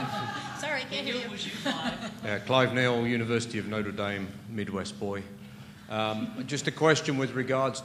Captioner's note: laughter